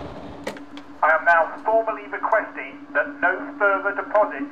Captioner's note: man On Radio